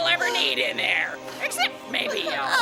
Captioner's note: Helen sobs quietly